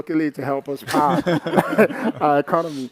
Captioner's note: laughter